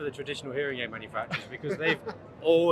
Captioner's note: laughing